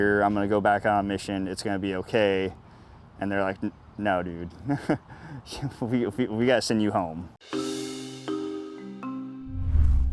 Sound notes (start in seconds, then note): 4.6 chuckles; 7.4 soft music